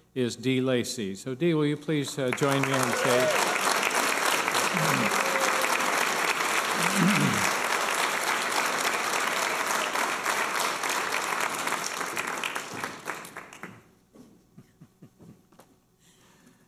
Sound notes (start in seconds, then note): 3.6 applause and cheers